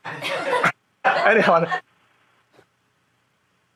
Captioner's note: shared laughing